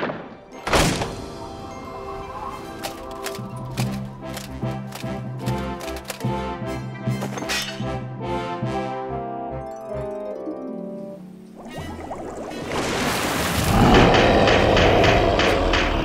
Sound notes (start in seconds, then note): 13.6 monster roars